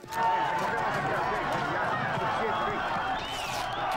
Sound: people shouting

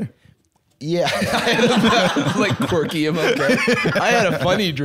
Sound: laughs

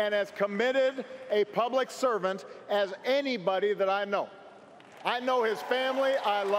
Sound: cheers & applause

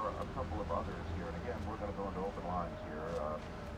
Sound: hospital sounds

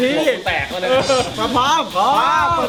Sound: chuckles

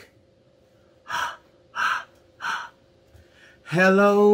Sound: exhales short breaths

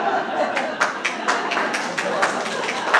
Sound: applause

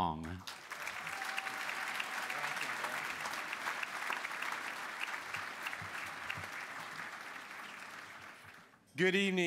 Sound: applause

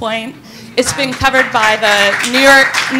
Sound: audience applauding

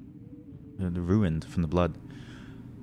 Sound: deep breath

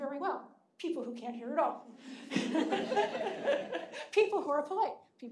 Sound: audience laughing

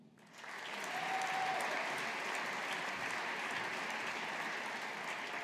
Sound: audience applauding

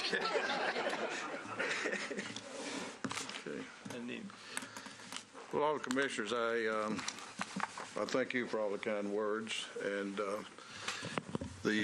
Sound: laughter

